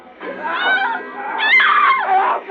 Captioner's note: screaming